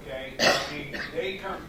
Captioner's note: coughs